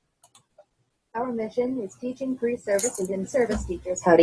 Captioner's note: voiceover